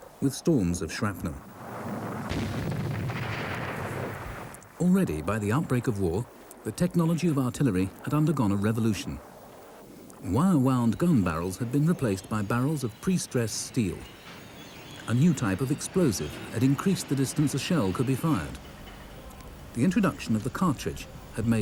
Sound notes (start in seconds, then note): 2.2 shell booms; 2.2 shrapnel blasts